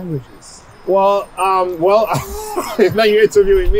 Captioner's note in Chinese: 笑声